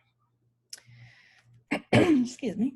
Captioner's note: clears throat